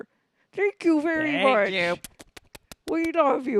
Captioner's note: air kisses